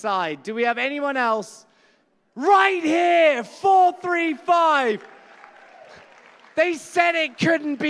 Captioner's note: applause